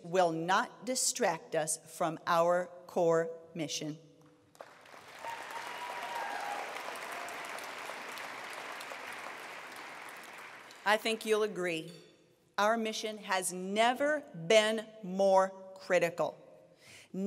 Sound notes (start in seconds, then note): 4.6 attendees applauding